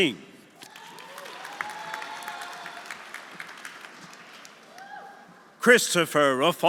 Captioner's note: audience applauding; audience cheering